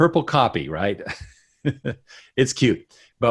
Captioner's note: laughs